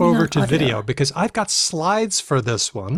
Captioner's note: musing